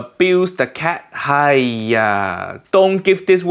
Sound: speaks in foreign language

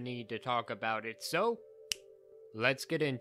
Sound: snaps

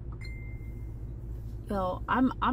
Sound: phone dinging

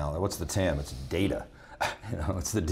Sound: laughs

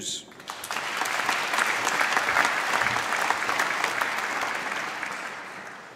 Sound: applause

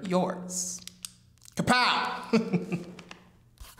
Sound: chuckles

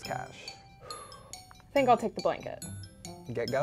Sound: exhales

